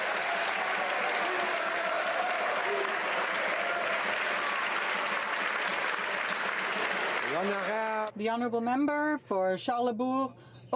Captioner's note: some Applause